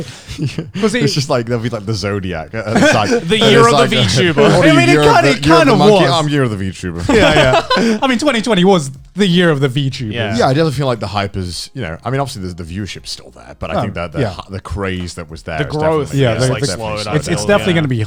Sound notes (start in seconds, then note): 0.0 Connor laughing; 7.1 Joey laughing